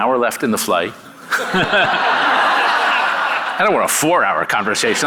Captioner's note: audience laughing